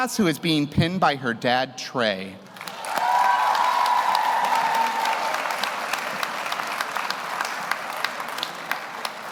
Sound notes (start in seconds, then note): 2.5 audience applauds; 2.6 audience cheers